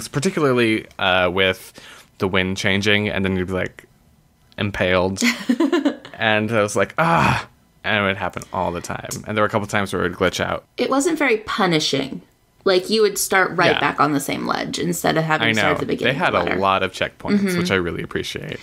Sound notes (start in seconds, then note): 5.5 laughs; 6.9 groans